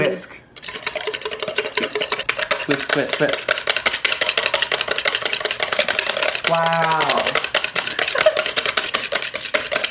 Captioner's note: laughter